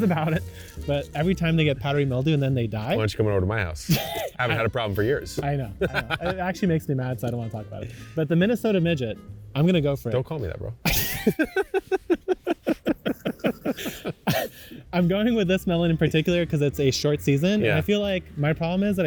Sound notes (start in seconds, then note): 0.0 chuckling; 5.7 laughs; 5.8 chuckling; 10.8 laughing